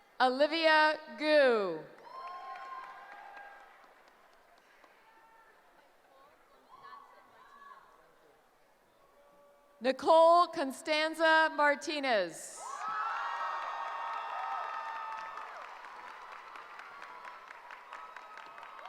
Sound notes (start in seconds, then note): 12.6 cheering